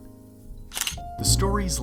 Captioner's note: camera shutter